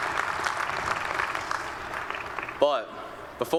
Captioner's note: applause